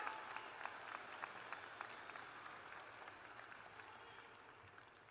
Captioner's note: cheers and applause